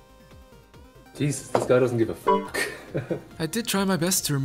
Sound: chuckles

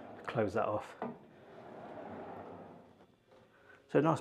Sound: door scraping

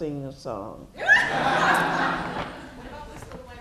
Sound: laughter

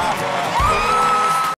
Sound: all cheering

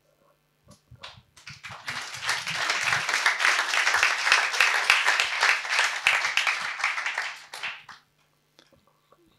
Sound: applause

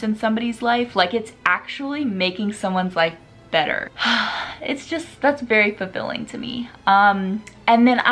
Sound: happy sigh

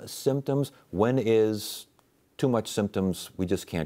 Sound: none

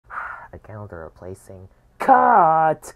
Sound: Lowercase Q sighs angrily

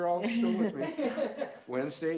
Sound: all laughing

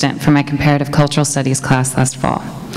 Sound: none

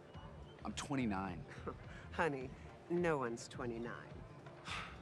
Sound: scoffs

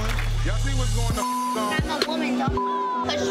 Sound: beep

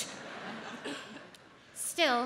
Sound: audience laughs

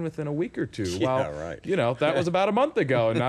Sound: laughing

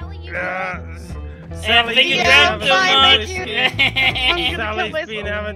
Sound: laughs

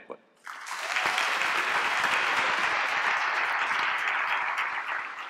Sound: applause

